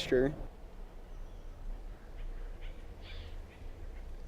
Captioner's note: birds chirping